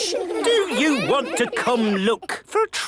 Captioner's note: children giggling